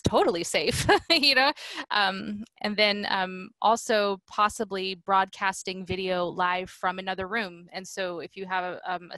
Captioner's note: laughter